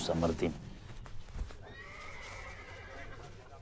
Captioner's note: horse neighing